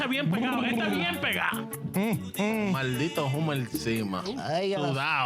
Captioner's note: speaking In Foreign Language